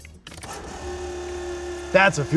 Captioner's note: motor running